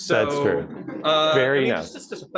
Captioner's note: laughter